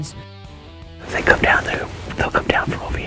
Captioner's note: whispering